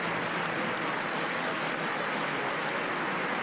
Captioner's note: applause